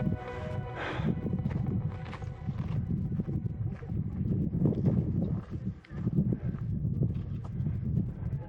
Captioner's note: breathing heavily